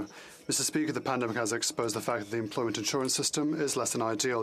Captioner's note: speaking Spanish